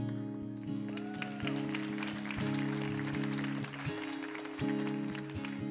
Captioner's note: audience applauds and cheers